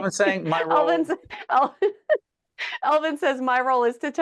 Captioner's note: laughing